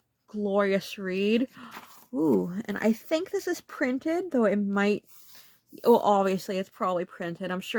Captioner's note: gasp